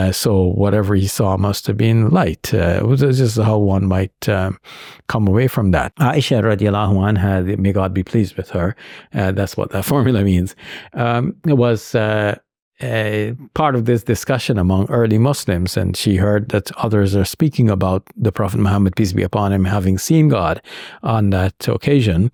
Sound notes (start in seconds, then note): 5.9 speaks in foreign language